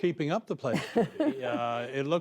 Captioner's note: laughter